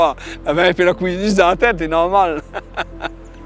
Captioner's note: laugh